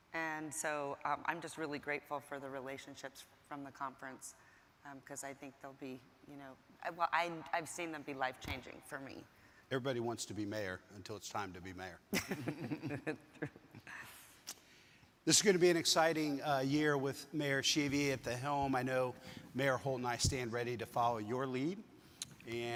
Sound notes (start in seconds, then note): 12.1 laughing